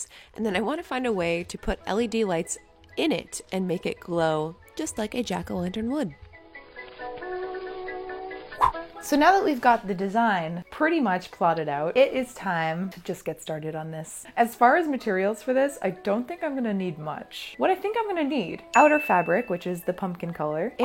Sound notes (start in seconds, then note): none